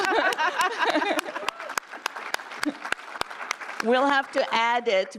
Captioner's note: applause